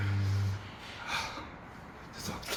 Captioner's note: sighs